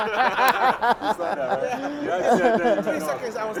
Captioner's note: laugh